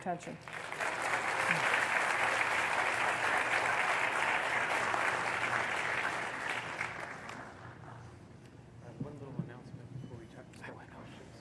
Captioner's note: applause